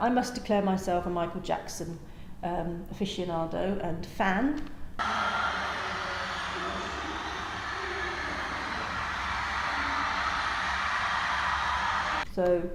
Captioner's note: screaming fans